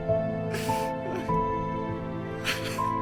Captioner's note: crying